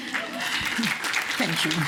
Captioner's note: applause